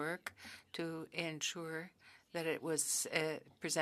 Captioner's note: speaking French